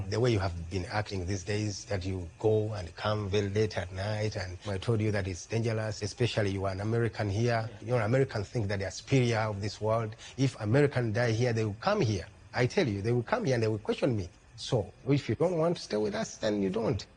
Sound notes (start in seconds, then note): none